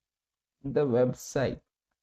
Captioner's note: voice-over in English